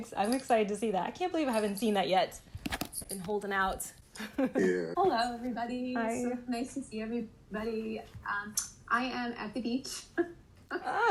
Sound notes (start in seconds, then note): 4.2 laughter